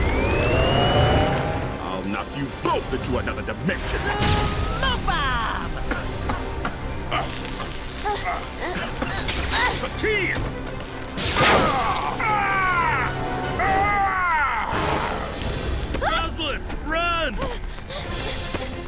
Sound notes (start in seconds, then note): 0.0 powering up; 5.7 Taurus Bulba coughing; 9.3 grunting; 13.6 screams; 18.7 panting